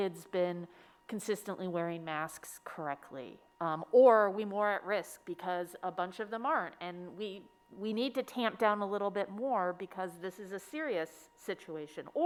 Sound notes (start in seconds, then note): none